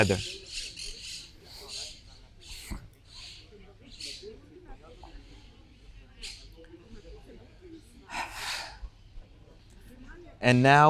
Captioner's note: pauses 10 seconds